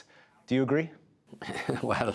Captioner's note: laughter